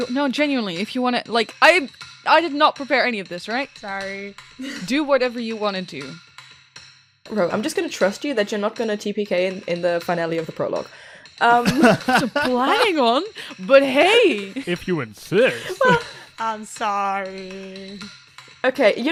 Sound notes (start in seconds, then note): 11.6 laughter; 15.2 laughs